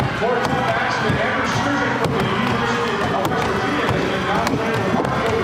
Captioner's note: announcer calls event as crowd cheers